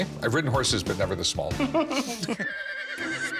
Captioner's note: both laughing; horse whinnies